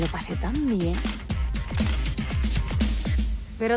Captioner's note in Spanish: Disparos cámara